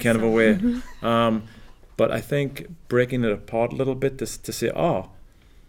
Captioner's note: laugh